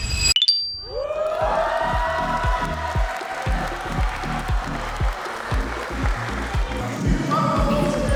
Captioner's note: crowd cheering